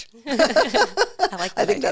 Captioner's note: both laugh